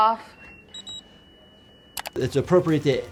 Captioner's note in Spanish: emite un pitido